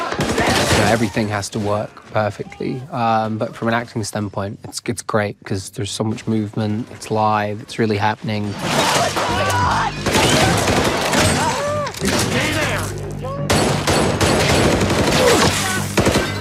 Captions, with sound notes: So everything has to work perfectly. But from an acting standpoint, it's great 'cause there's so much movement. It's live, it's really happening. - What the hell is going on? (guns firing) - Just stay there. (guns firing)